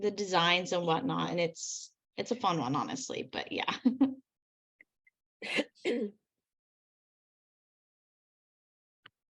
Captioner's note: clears throat